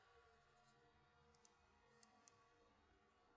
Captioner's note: metal clicks